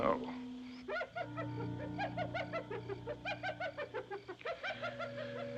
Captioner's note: hyena Chattering